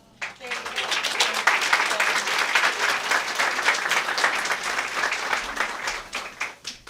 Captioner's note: applause